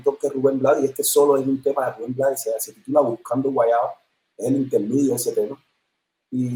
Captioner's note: sonido entrecortado